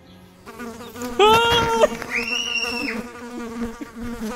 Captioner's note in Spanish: Gritos